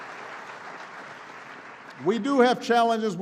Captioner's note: applause